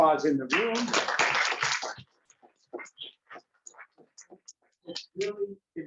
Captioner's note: classroom applauding